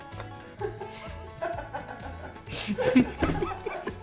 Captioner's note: all laugh